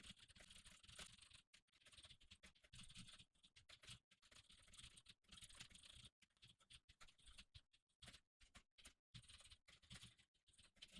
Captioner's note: typing sounds